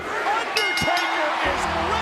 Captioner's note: bell rings